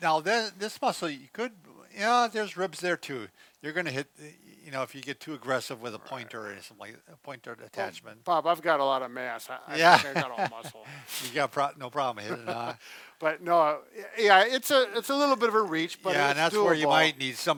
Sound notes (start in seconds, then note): 9.7 laughs; 12.2 laughs